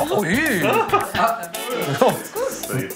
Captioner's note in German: Freudiges Gemurmel